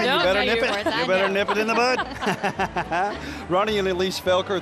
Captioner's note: laughing